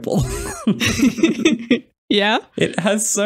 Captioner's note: laughter